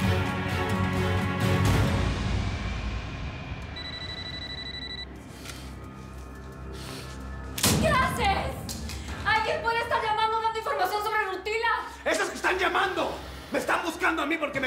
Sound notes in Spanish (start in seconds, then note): 3.7 suena un celular; 8.0 ruido al estrellar el celular